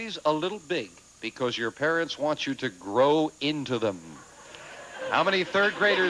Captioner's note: audience laughing